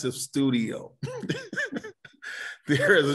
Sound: laughs

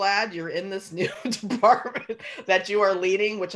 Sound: laughing

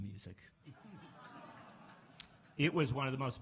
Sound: laughs and awws

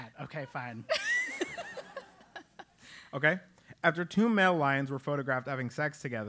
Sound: laugh

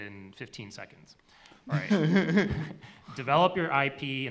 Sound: laughs

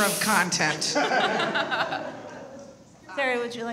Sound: all laugh

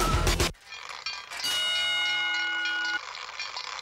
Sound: clanging

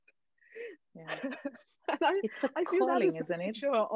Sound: all laughing

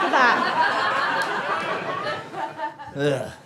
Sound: audience laughter

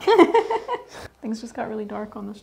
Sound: laughs

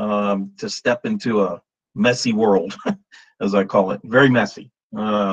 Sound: chuckles

